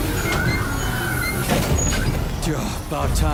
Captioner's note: tires squealing